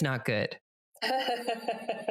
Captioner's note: laughs